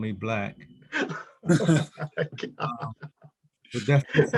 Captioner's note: laughing